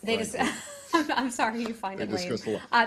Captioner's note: laughter